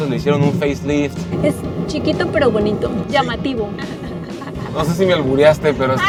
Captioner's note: laughter